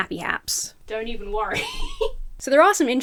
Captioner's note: laughs